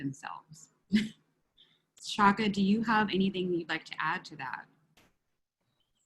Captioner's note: laugh